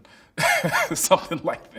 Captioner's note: chuckles